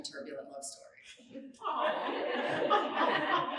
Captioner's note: audience laughing